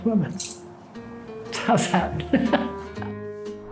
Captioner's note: laughs